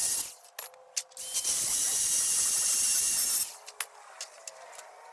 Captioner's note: machine buzzing